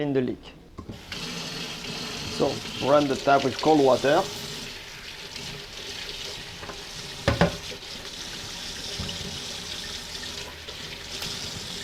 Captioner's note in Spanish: agua saliendo